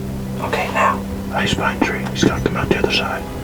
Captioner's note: whispering